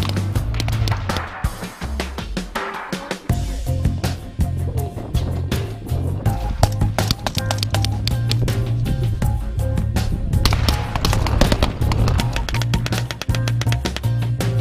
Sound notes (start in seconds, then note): 7.0 gunfire; 10.4 gunfire